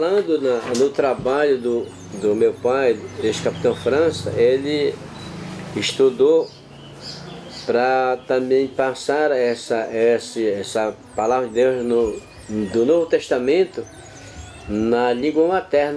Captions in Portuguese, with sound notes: trabalho do meu pai, [pássaros cantando] ex-Capitão França, ele [veículo passando na rua] estudou para também passar essa Palavra de Deus [pássaros cantando] do Novo Testamento na língua materna.